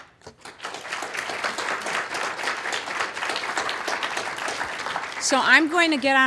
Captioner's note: applause